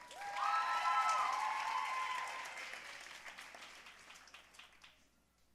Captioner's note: audience cheering and applauding